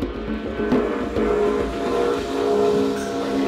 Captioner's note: gong ringing